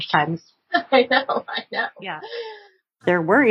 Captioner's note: laughs